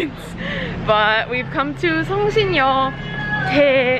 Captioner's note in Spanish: habla extranjera